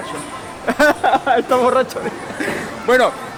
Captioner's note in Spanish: risas